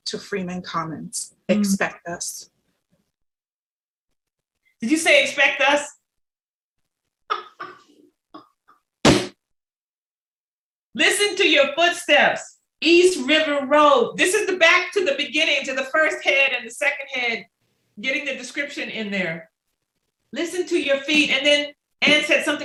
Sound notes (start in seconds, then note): 7.3 laughter